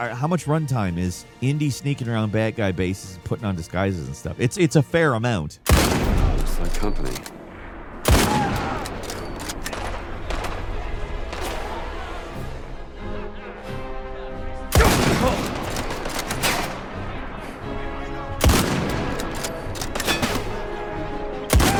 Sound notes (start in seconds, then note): 5.6 gun firing; 8.2 guns firing; 12.2 tense orchestral music; 14.8 guns firing; 17.8 tense orchestral music; 18.3 guns firing